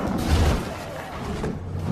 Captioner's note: bull roar; roaring